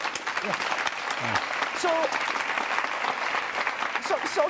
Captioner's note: applause